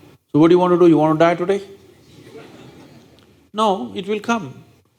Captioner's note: laughter